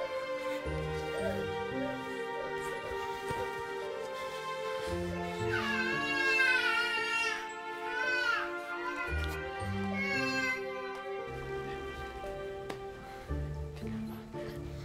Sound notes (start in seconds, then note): 5.3 baby crying